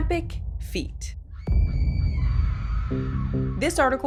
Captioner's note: woman screaming